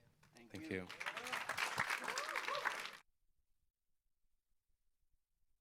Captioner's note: audience applauds